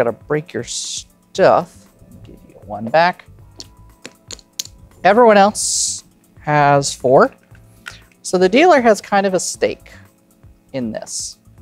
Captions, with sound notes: I gotta break your stuff. I'll give you 1 back. (chips clattering) Everyone else has 4. So, the dealer has, kind of, a stake in this.